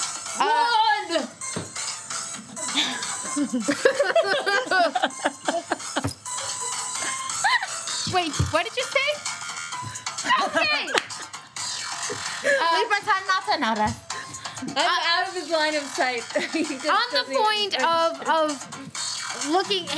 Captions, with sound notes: - One! (laughing) - Wait, what did you say? - Nothing! - We pretend not to notice. - Out of his line of sight. - On the point of looking,